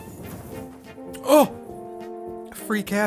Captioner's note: gasps